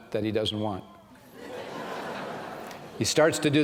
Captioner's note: laughter